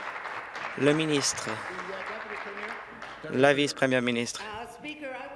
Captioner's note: applause